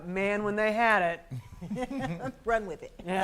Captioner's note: soft laughter